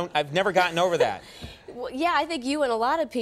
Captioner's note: Nancy laughs